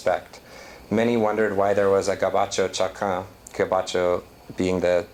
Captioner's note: non-english